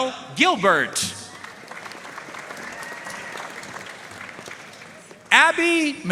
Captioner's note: audience cheering and applauding